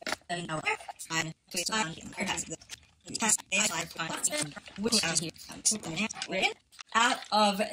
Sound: fast forwarded talking

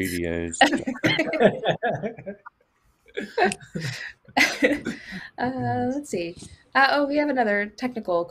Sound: laughs

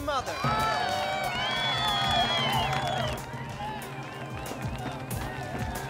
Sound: Chosen cheering and applauding

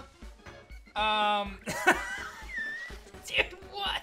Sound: laughs

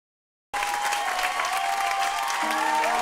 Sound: applause

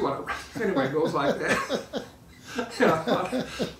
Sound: laughing

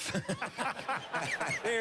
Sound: laughter

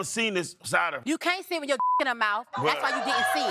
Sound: beep

